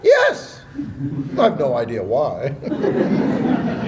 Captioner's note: laughter